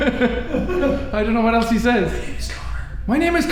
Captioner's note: whispers